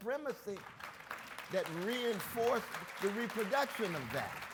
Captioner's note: audience claps